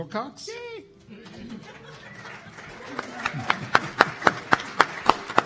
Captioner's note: applause